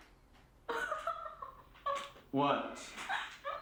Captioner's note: Cathy laughing